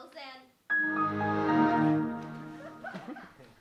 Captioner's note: Windows shut-down sound